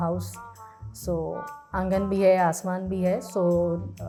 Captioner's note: in Hindi